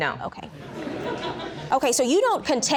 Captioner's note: audience laughing